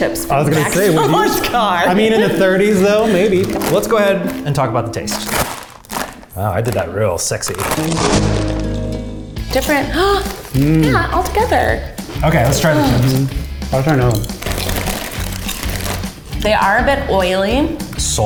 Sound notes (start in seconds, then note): 5.0 rips loudly; 7.6 spanish guitar; 10.4 gasps; 14.7 crunching; 15.6 bag crinkling